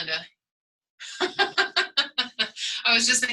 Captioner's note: laughter